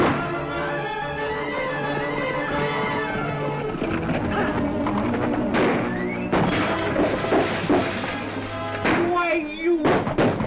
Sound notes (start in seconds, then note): 0.0 tense music; 6.1 crash